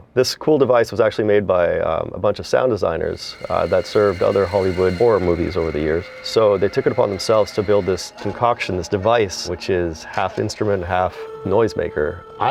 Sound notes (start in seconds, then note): 6.1 high piercing sound; 10.4 airy sound